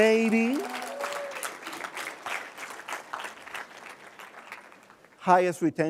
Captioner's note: applause